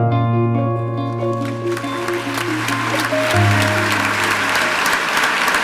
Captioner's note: audience clapping